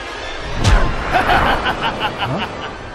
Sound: laughs

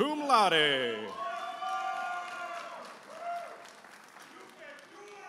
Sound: audience applauding and cheering

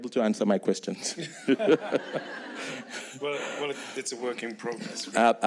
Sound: people laughing

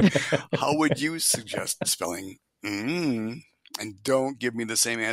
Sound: laughs

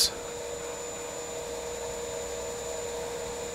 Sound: loud machine whirring

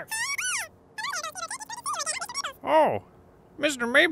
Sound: multiple squeaks

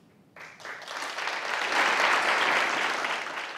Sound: applause

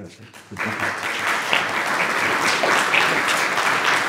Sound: applause

